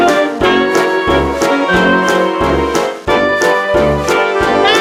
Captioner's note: slip